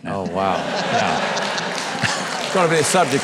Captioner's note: audience applauding